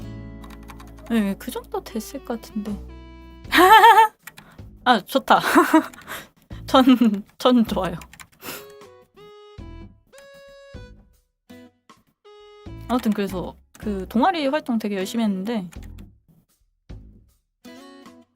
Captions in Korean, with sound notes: 그 정도 됐을 것 같은데. 아, 좋다. [웃음] 천 천 [콧방귀] 그 동아리 활동 되게 열심히 했는데